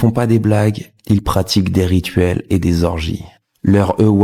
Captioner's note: french dialogue continues